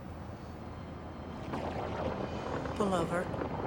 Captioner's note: suspenseful orchestral music; thunder claps